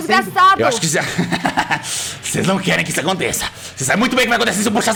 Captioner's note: laugh